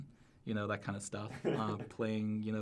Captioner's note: laughs